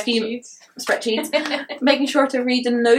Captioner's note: laughs